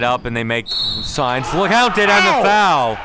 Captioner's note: whistle blowing